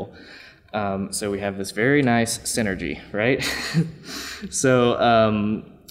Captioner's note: laughs